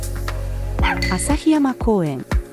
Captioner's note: bark!